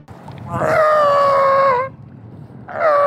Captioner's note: Seal yelling